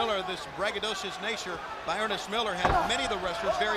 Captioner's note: crowd chatter